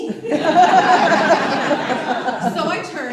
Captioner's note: audience laughs